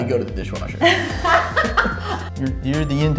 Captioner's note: laughing